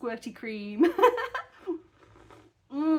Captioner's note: laughing